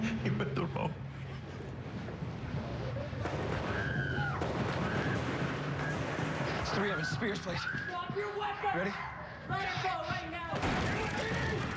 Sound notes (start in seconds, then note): 2.6 lCaughs; 5.3 gunshots; 8.3 gunshots continue